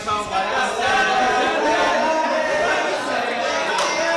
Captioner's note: crowd being noisy